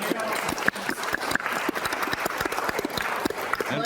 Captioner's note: applause continues